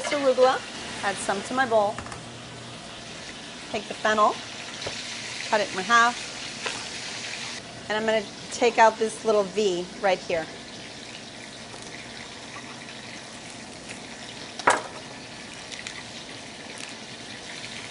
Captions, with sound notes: HAVE CUT HERE. SOME FAVA BEANS, SOME ARUGULA. [SIZZLING] SO I WILL TAKE A LITTLE BIT OF THIS ARUGULA, AND ADD SOME TO MY BOWL. TAKE THE PILL, CUT IT IN HALF. AND I'M GOING TO TAKE OUT THIS